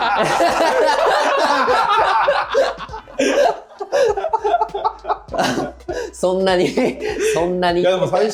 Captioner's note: laughs